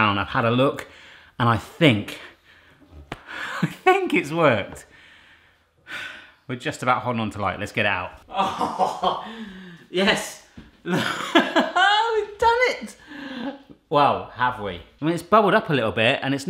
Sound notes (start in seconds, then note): 3.5 laughing; 5.8 exhaling heavily; 8.3 laughing; 10.9 laughing